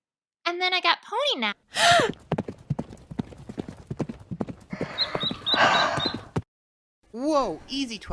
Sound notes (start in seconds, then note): 1.8 galloping Franticly; 4.7 Pee Wee chirping